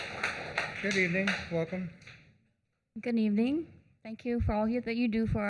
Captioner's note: applause